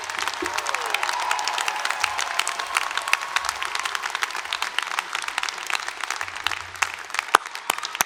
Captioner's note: cheering and applause